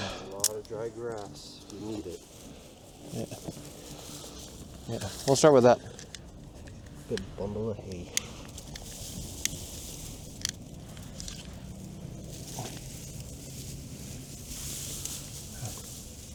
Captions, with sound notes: "There's a lot of dry grass, we need it" "Yeah" "Yeah" "We'll start with that" "Good bundle of hay" *lighter igniting*